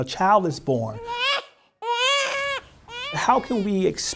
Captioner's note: baby crying